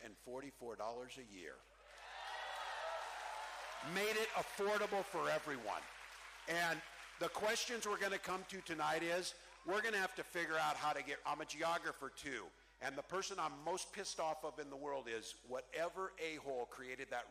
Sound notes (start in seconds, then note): 8.1 cheering